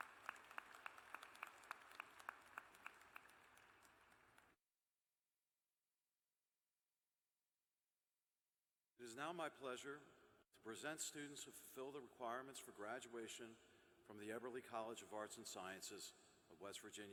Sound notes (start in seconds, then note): 0.0 applause